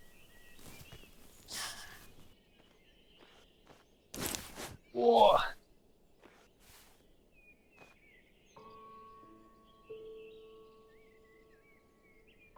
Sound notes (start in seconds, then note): 0.1 birds chirping; 5.0 Jim groaning; 8.0 gentle orchestral music